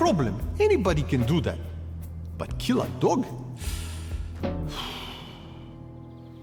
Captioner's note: sighs